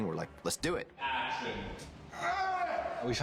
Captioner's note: grunts